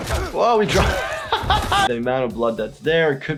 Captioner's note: laughing